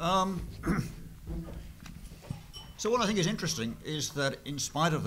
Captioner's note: cough